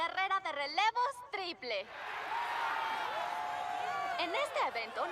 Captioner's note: cheers